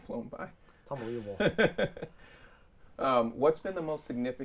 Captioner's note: laughing